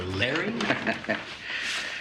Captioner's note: Nash chuckling